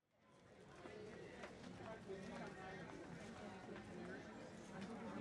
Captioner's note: attendees chatting